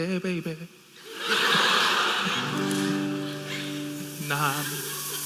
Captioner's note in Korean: 웃음